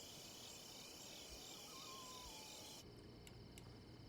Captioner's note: crickets chirping